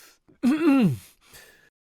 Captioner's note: cough cough